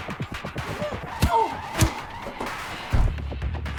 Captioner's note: Liz gasps; blows thudding